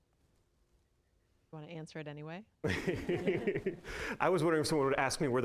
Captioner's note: audience laughing